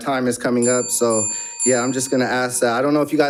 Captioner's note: bell dings